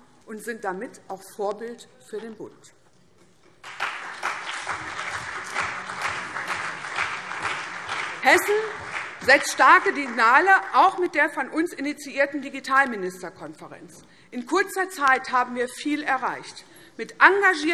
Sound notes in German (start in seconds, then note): 3.6 Beifall CDU und BÜNDNIS 90/DIE GRÜNEN